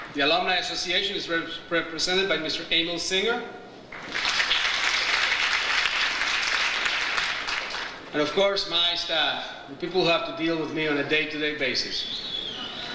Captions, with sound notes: The Alumni Association is represented by Mr. Angel Singer. (audience applauds) And, of course, my staff, the people who have to deal with me on a day to day basis,